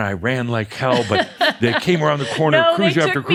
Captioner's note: she laughs